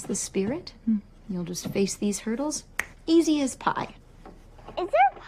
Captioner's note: snaps fingers